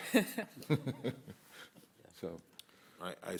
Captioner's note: laughter; laughter